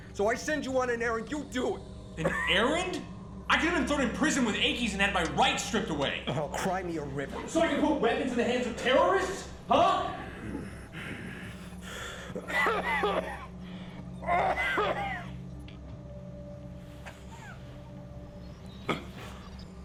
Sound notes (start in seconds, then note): 10.1 heavy breathing; 12.8 violent coughing; 18.6 choking sounds